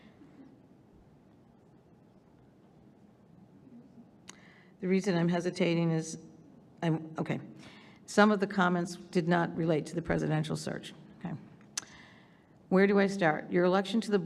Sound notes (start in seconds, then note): none